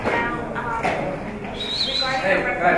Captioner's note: whistling